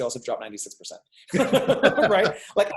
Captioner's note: laughing